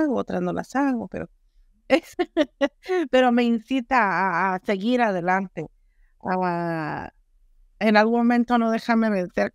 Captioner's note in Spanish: risas